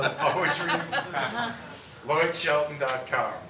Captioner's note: laughing